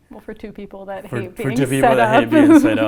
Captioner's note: laughs